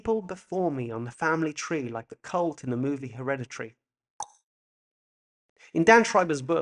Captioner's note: SFX click tongue